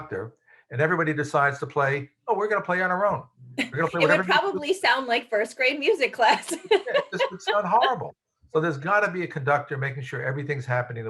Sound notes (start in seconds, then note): 2.3 chuckles; 6.9 laughs